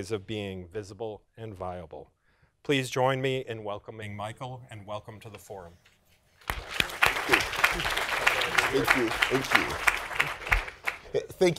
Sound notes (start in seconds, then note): 6.4 applause